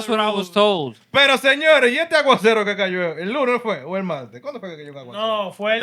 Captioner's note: speaking Spanish